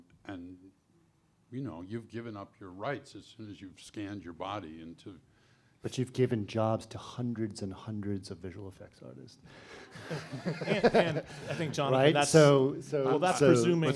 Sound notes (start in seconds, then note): 9.9 panel laughs